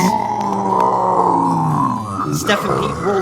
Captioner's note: Lumber Axe groaning